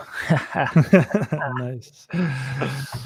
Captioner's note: both laughing